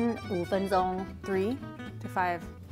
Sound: speaking in mandarin

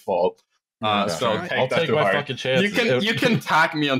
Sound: overlapping chatter

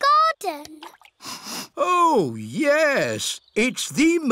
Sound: sniffs

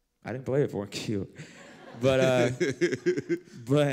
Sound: laughter

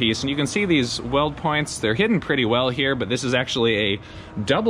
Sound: none

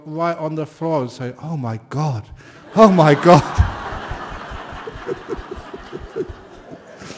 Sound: laughter

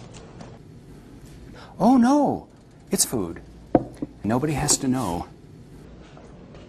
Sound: gasps

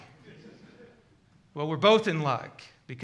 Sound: congregation laughs

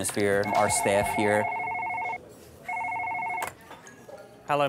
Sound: phone ringing

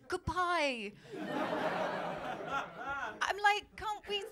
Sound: laughter

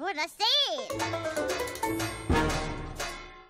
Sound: bells clang

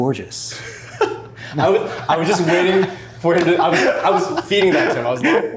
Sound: chuckles

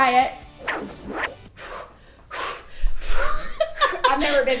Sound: panting

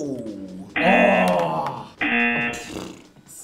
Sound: buzzer blares; blows raspberry

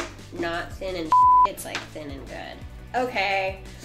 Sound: beep

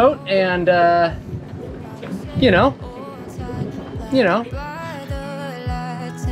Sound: laughs

